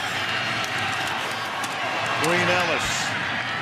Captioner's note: crowd cheering